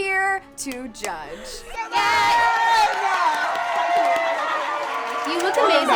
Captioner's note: women cheering; audience clapping